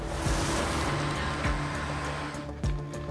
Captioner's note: engine revving